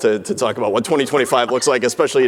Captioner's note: laughing